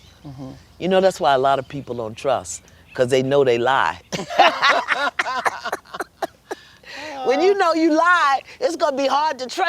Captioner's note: laughter